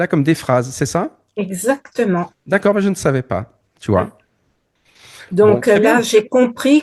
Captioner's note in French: grognement